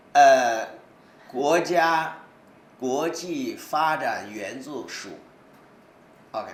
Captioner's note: speaks in foreign language